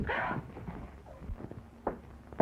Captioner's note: sobs